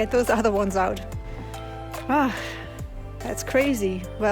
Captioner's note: sigh